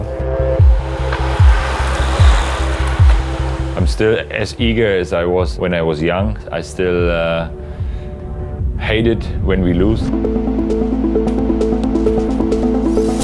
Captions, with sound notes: (bikes whirring) - I'm still as eager as I was when I was young. I still hate it when we lose. (upbeat ambient music)